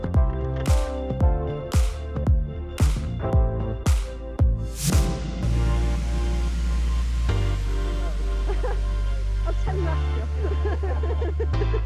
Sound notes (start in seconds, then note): 5.9 laughing